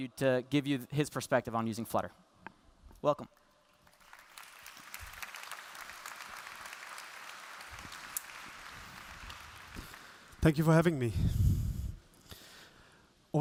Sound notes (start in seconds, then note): 3.4 applause